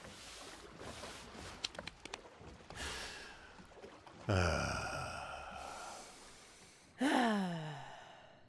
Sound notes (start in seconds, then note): 2.5 breathes deeply